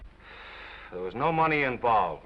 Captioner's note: Norman sighs